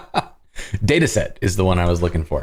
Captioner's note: laughter